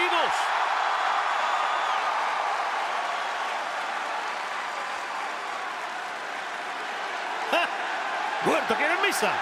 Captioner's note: applause